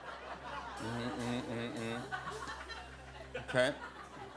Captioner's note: laughter; Jimmy humming